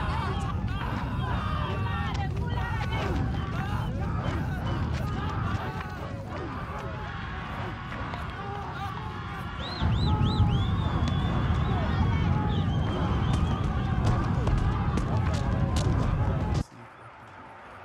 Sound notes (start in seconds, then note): 2.2 Hennie screaming